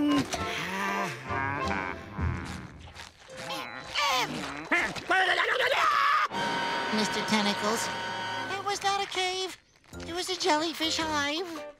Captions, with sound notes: [sighing] [grunting] Hmm! [babbles, screams] Mr. Tentacles, it was not a cave. It was a jellyfish hive.